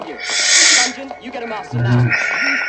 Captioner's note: sad sigh